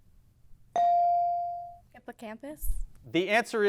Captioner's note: bell dings